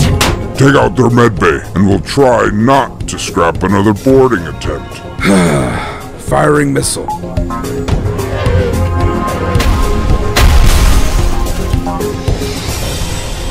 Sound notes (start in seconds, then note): 5.2 sigh